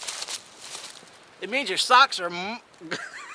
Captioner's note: laughs